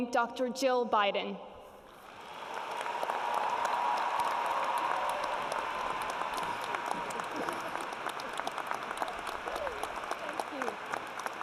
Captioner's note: audience cheers and applauds; audience cheers